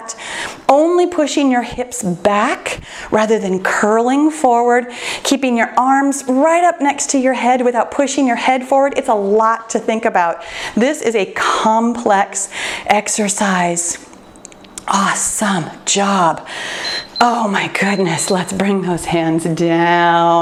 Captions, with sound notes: Only pushing your hips back rather than curling forward. Keeping your arms right up next to your head without pushing your head forward. It's a lot to think about. This is a complex exercise. Awesome job. [timer beeps] Oh my goodness. Let's bring those hands down.